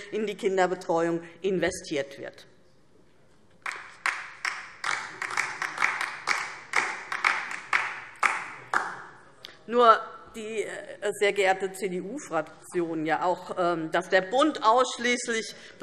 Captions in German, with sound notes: in die Kinderbetreuung investiert wird. [Beifall DIE LINKE] Sehr geehrte CDU-Fraktion, dass der Bund ausschließlich